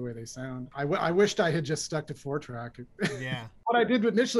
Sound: laughter

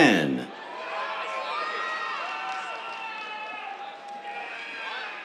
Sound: cheers, applause

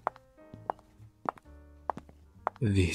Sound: footsteps stop

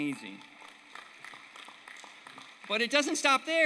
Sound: applause

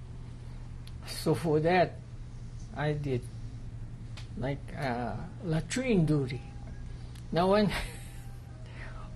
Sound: laughs

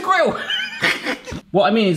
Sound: laughing

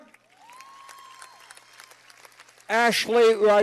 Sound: cheers and applause

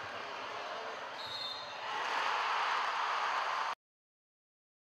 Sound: cheers; whistle

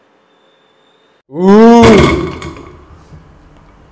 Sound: head bump sound

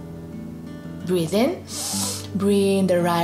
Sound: breathes in deeply

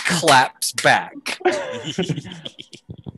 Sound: cast laughing

